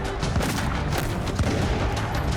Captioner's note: gunshots